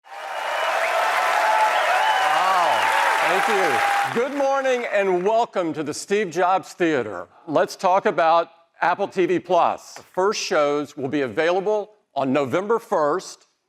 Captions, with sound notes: (applause) - Wow, thank you. Good morning and welcome to the Steve Jobs Theater. Let's talk about Apple TV+. The first shows will be available on November 1st